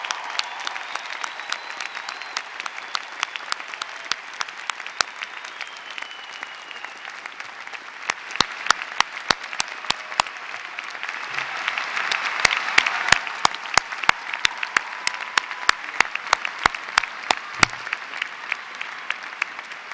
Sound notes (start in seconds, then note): 4.4 applause